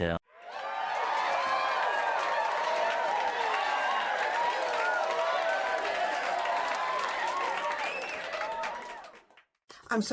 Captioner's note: applause & cheering